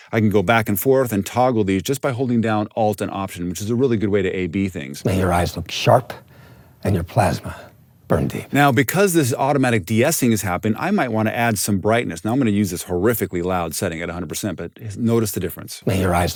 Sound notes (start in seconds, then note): 4.9 movie dialogue plays